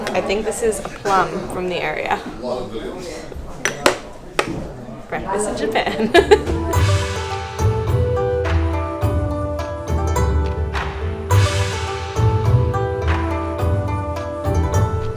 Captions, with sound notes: and I think this is a plum from the area. Breakfast in Japan. (laughs) (upbeat string music)